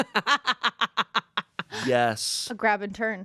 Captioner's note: laughs